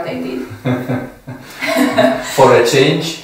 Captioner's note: laughs